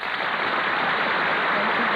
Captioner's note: applause